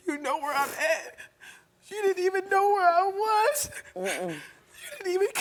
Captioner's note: crying